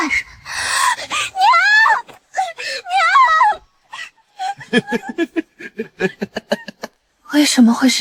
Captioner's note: laughter